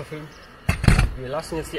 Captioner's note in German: klappern